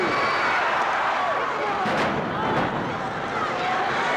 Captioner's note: audience cheering